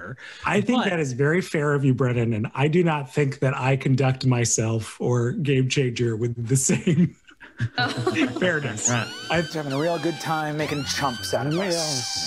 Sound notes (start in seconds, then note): 7.8 sirens